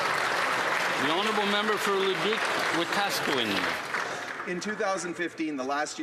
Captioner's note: applause